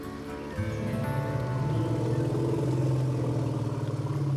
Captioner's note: elephants roar